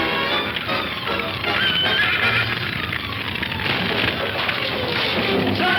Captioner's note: dramatic music; fire crackling; horse whinnies